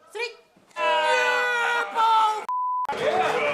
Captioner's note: screaming; cheers and applause